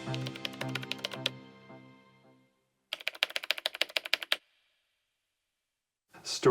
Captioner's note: typing